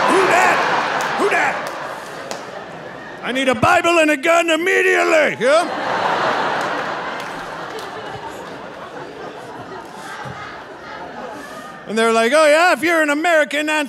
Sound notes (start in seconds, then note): 0.0 audience laughing; 5.4 audience laughing